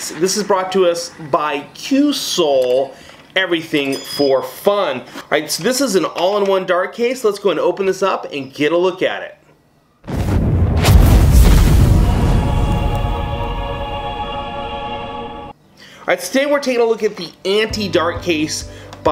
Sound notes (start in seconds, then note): 10.0 explosion